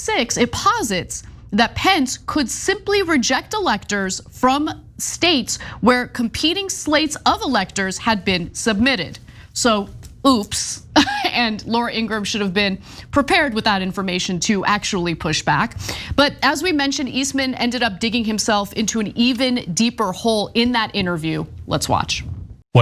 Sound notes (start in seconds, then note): 10.1 laugh